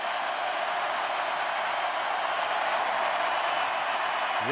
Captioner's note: crowd cheering